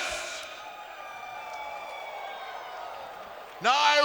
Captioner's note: audience cheers